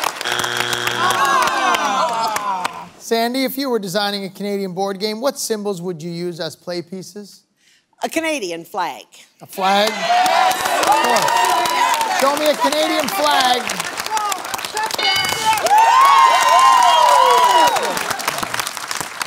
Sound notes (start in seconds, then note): 0.0 buzzer sounds; 14.9 bell dings; 15.8 cheering